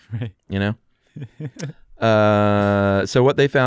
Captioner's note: laughs